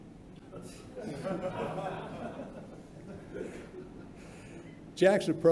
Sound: laughter

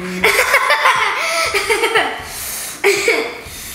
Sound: laughs

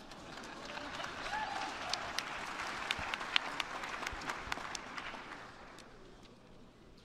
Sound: applause

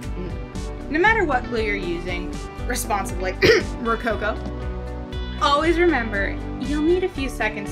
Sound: cough, rococo

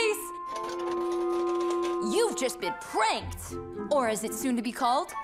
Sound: shaking metal

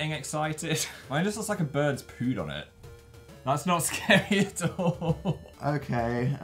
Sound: adorable laugh

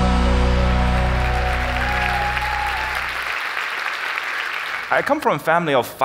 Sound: audience cheering; audience clapping

